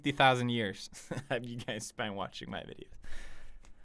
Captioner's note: chuckles